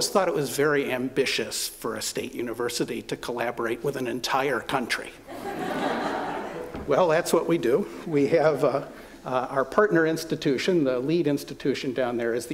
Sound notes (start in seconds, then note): 5.3 laughter